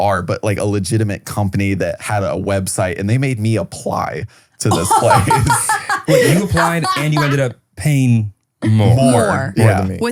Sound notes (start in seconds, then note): 4.7 laughs